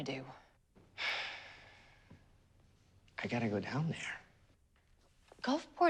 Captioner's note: sighs